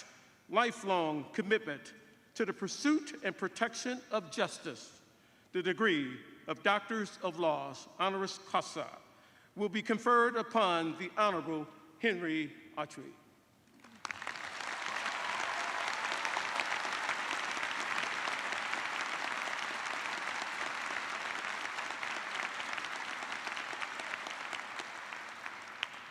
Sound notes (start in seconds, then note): 12.1 cheers and applause